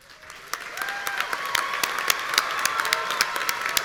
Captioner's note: audience cheering